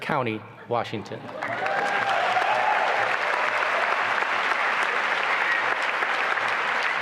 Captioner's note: applause and cheering